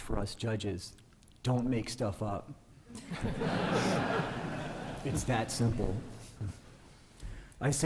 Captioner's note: laughter